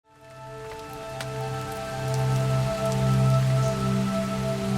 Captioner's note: rain falling; soft instrumental music